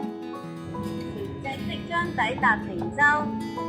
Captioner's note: announcement on the boat